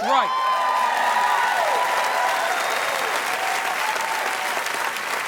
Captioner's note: audience applauding